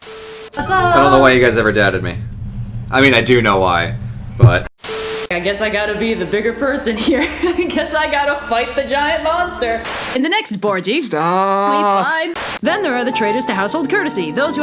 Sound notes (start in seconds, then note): 7.0 giggles